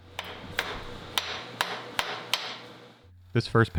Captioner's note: hammer tapping block into position